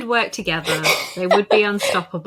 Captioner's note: laughs